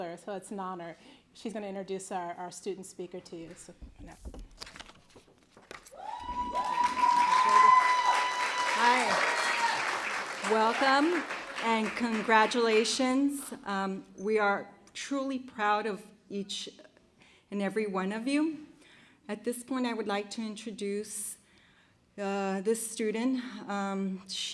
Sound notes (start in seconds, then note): 7.5 applause